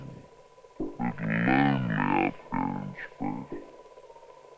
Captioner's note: delayed speech